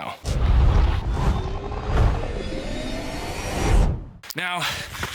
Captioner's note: crescendoing whoosh